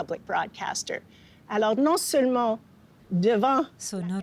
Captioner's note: speaking French